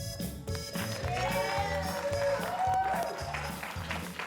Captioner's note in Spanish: aplausos